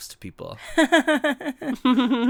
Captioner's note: laughs